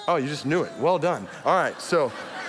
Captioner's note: audience laughs